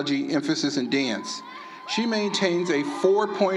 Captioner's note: applause